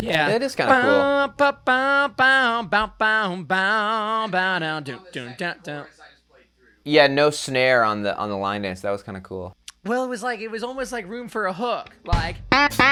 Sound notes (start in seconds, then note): 0.6 mimicking guitar